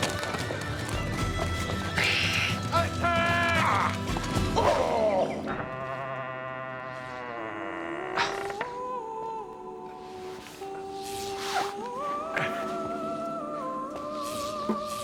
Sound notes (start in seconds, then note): 5.7 creaks; 7.7 sweet music